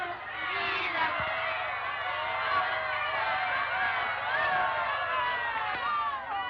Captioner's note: all shouting